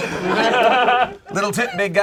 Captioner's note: group laughs